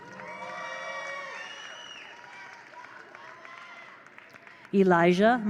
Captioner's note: attendees cheer; attendees applaud